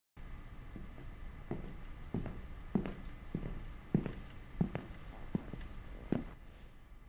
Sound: footsteps

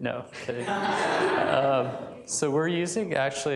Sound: laughter

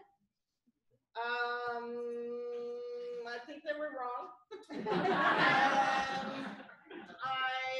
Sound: laughter

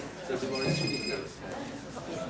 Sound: phone rings

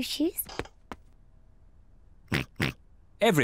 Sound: oinks

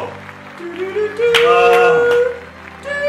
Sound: sighs and claps

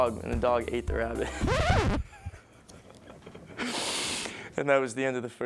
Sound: laughs; record scratches

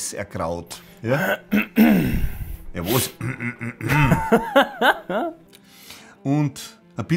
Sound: clears his throat

